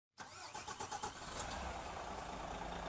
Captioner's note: engine cranking; engine idling